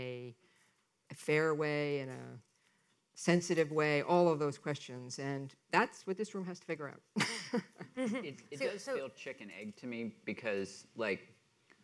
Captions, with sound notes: in a fair way, in a sensitive way, all of those questions, and that's what this room has to figure out. (laughs) - It does feel chicken egg to me because,